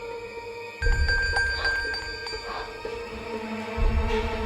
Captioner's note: distant bell